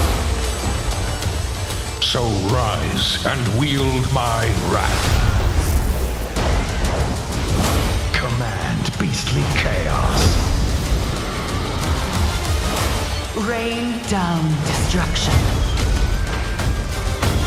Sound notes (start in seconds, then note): 10.9 dragon roaring